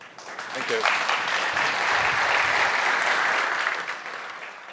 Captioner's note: applause